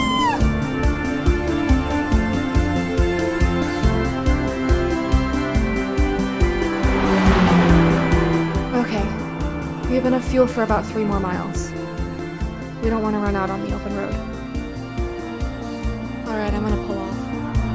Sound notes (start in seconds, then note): 0.1 intense music; 6.7 engine revving